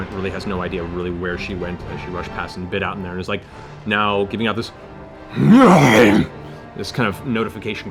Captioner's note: bear growl